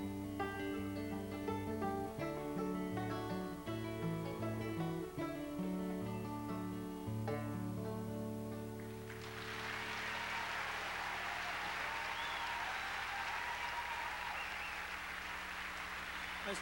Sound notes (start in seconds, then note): 8.7 crowd cheering